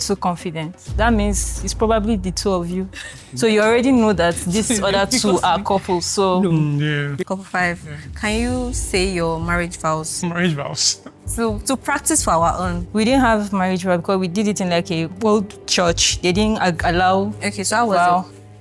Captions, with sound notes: too confident, that means it's probably the two of you. [laughs] So you already know that these other two are couples, so. hmm, Yeah. okay couple five. Can you say your marriage vows? Marriage vows? [laughs] To, to practice for our own. We didn't have marriage vow because we did it in, like, a old church. They didn't allow Okay, so how was your... vow